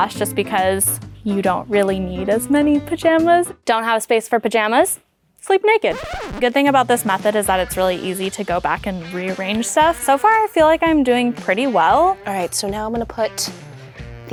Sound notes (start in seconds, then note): 5.8 record scratches